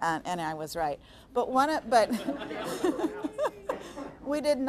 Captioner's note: audience laughing